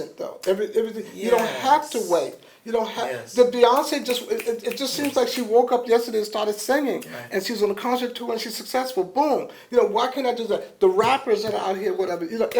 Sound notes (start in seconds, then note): 3.6 snaps